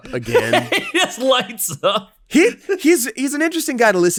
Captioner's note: laughing loudly